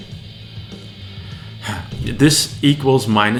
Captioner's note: sigh